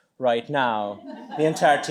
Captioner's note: laughter